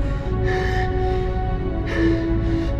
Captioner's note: panting